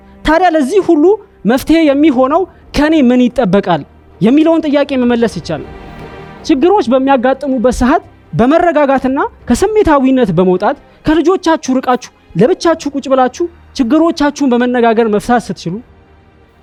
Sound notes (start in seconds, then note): none